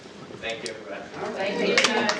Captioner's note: applause